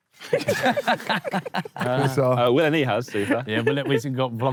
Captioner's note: Sidemen laugh